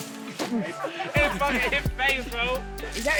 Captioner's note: laughing